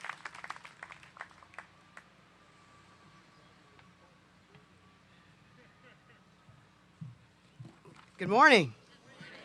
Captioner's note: applause